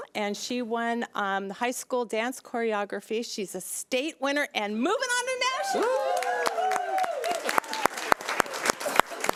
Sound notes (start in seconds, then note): 5.7 crowd applauding